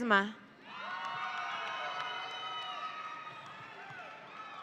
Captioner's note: audience cheering